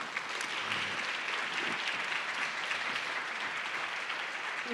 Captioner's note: audience clapping